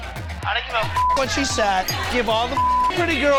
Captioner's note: beeps loudly